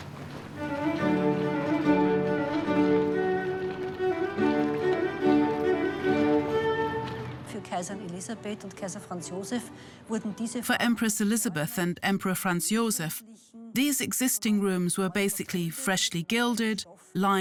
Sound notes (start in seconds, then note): 0.5 upbeat classical music; 7.6 speaks in foreign language